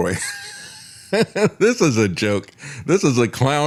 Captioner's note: laughs